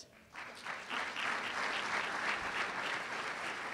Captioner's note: applause